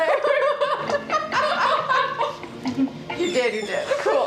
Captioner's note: laughing